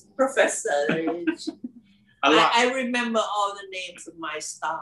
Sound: laugh

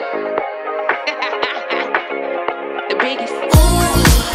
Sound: singer laughing

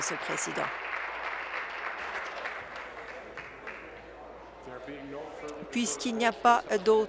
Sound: applause

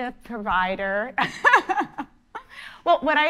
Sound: laughing

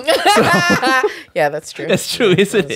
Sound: laughter

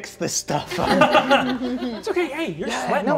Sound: laughing

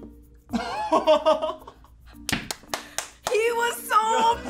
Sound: laughs

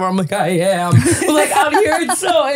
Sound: laughing

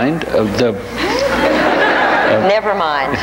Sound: audience laughs

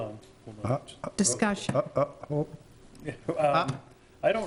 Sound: stuttering

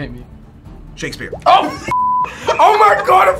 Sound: laughing; beep

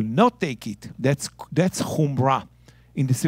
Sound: speaking in Hebrew

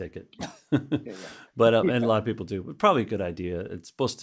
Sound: laughs

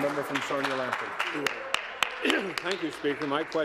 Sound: applause

